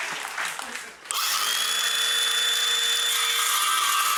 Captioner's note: saw buzzing